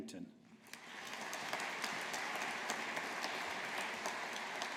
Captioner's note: audience applauding